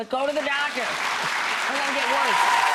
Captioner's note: audience cheering